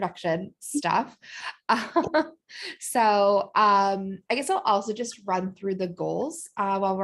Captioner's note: laughter